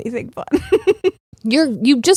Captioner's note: laughing